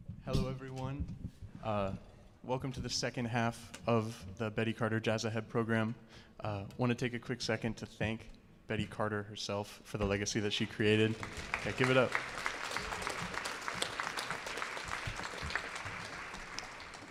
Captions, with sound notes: - Hello, everyone. Welcome to the second half of the Betty Carter Jazz Ahead program. Want to take a quick second to thank Betty Carter herself for the legacy that she created. And give it up. (audience applauding)